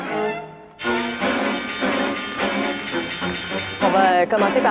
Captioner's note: stock exchange bells